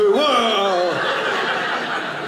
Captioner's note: audience laughing